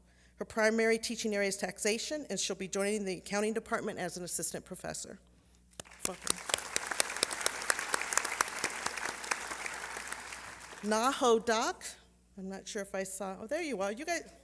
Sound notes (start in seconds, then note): 5.8 applause